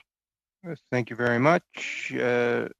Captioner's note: speaking french